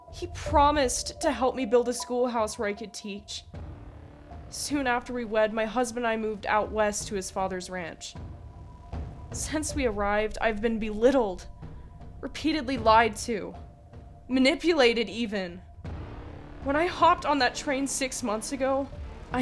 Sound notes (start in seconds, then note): none